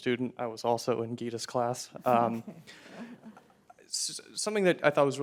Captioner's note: chuckles